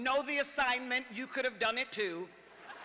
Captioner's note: cheers